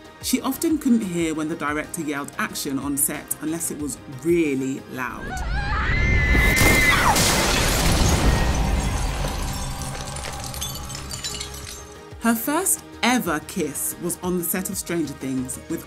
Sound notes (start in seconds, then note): 5.2 screaming; 6.5 window breaking